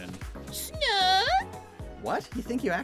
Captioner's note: Fakemon cry